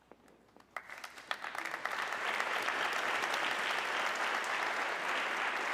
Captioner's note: audience clapping